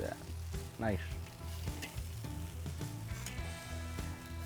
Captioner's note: chicken sizzling